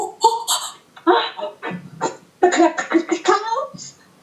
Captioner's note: sounded fast breathing